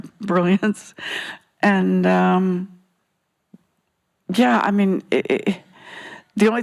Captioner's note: stammers